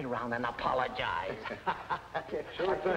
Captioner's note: both chuckling